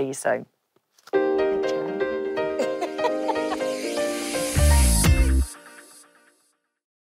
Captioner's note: bright music; laughs